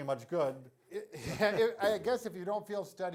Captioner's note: both laugh together